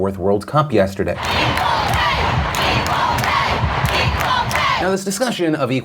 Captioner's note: crowd